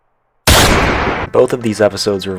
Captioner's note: gunshot